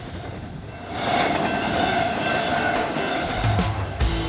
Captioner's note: train wheels clacking; fast rock music